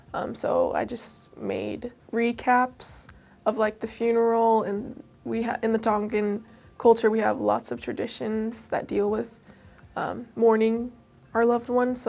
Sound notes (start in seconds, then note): none